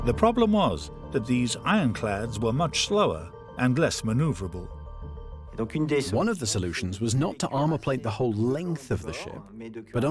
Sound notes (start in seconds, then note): 6.2 voiceover